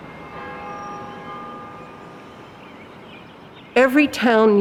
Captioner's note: church bell ringing